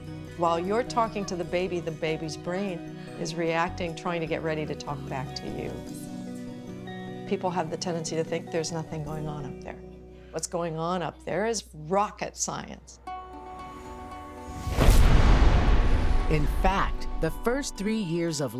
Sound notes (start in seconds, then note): 14.4 explodes